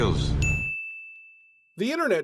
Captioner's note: ding